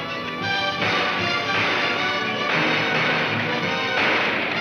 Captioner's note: gunshots cracking